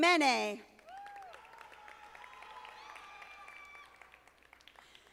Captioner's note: audience applauding